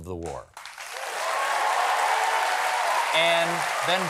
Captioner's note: applause